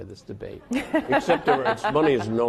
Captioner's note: laughing